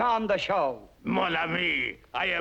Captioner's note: French accent